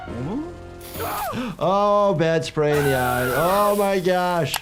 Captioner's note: gasps